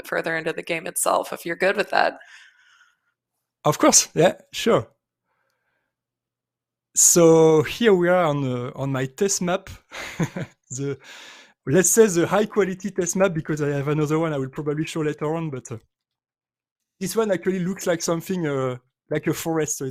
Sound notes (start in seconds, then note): 9.9 chuckles